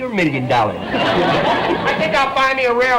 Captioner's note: audience laughter